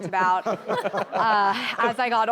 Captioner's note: all laughing